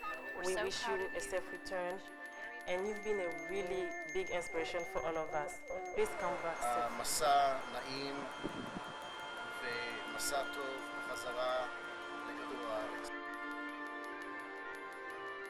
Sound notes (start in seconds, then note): 6.9 speaking hebrew